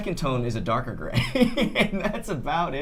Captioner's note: laughs